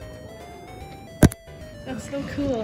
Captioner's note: hitting camera sound